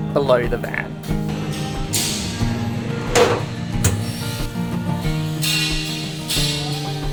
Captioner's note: soft guitar music; metal clanking in background